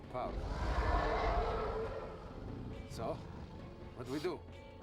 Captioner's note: roars